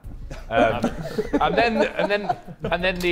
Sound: Sidemen laughing

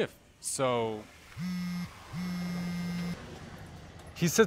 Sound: phone vibrating

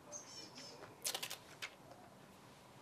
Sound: ttthwwwip

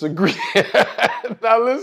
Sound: laugh

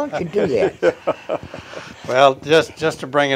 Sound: chuckles

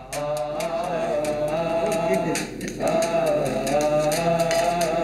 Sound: Arabic spoken audio

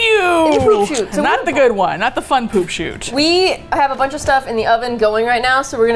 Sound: laughs

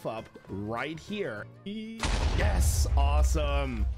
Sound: explosion

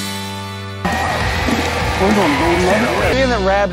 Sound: motor running?

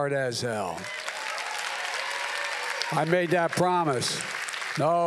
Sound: applause

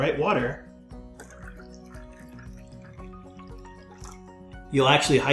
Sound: water pouring

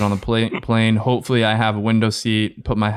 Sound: chuckles

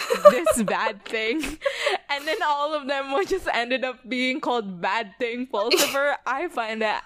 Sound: laughs

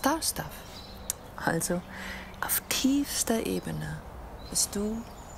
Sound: foreign language continues

